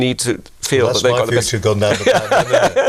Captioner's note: laughing